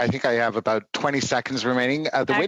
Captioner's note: speaking French